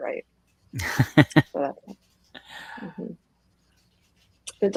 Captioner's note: laughs